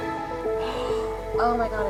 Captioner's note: gasps